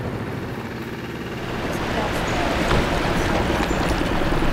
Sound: boat engine running

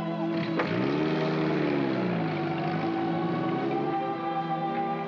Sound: sentimental music; jeep accelerates away; sentimental music

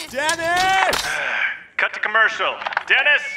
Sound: sigh; through megaphone

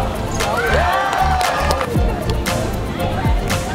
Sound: cheering and applause; upbeat music

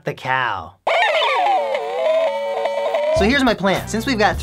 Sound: cow Noises

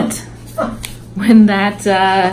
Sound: laughs

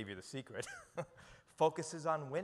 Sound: chuckles

